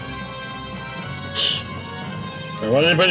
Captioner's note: laughs softly